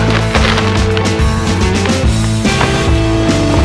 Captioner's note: rattling